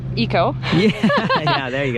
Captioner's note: laughs